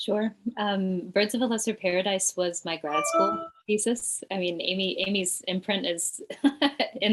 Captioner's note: chuckles